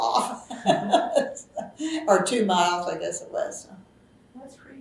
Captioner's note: laughs